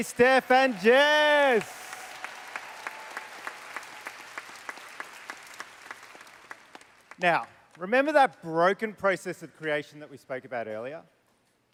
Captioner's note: applause